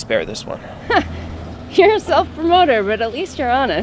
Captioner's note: chuckles